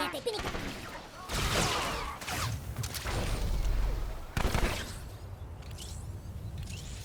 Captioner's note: gunshots